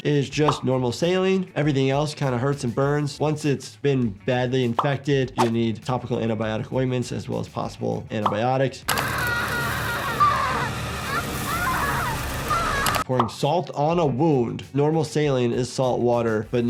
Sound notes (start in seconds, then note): 8.9 woman screaming